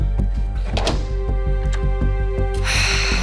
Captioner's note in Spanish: Sonido al abrir la puerta